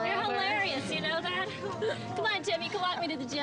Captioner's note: crowd chattering